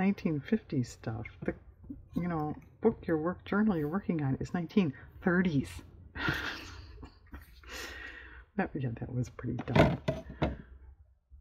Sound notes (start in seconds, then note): 6.1 laughs